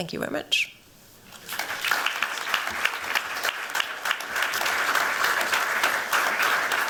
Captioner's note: audience clapping